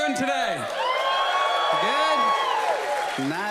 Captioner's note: audience cheers